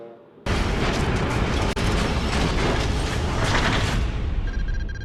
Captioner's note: metallic clanking